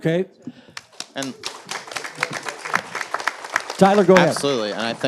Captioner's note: audience applauds